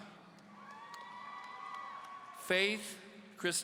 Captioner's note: audience cheering